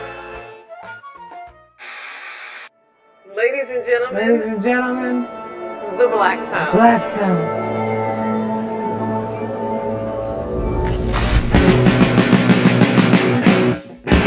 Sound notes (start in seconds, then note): 1.8 television static; 4.3 dreamily; 6.7 dreamily; 6.9 orchestra warming up